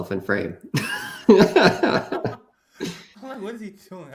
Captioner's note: laughter